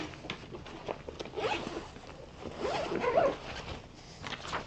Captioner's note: hissing zip